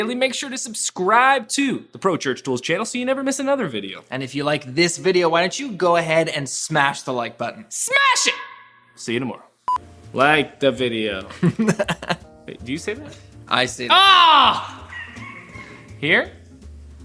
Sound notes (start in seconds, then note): 11.5 laughing